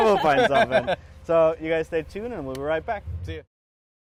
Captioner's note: laughs